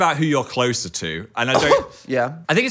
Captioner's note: Dan exclaiming